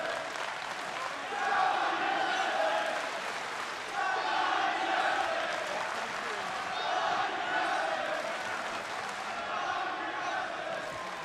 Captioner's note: crowd cheering